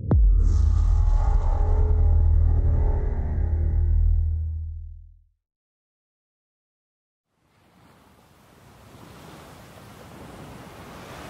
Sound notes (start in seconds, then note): 0.0 transition sound; 7.4 waves crashing